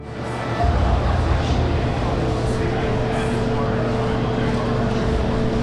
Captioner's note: people chattering indistinctly